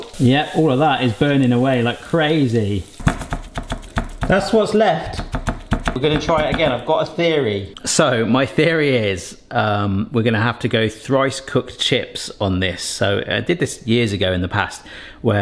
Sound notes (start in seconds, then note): 3.0 sieve tapping